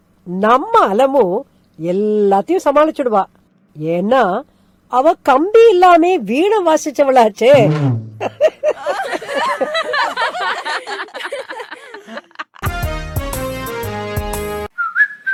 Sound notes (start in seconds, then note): 8.2 ladies Laugh